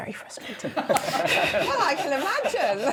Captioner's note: laughter